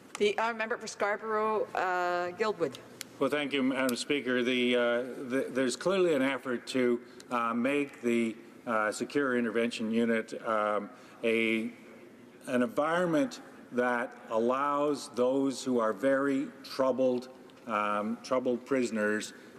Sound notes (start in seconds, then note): none